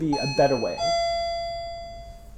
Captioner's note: ding-dong